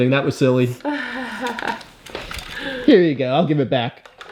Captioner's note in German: Mama lacht